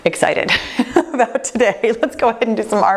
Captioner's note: laughs